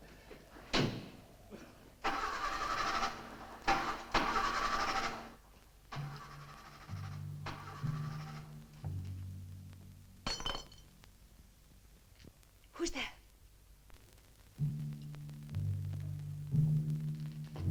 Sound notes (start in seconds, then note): 2.0 car stuttering; 10.2 metal clinks